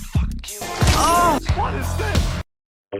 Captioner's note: Angle Dust Moan